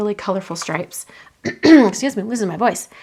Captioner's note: coughing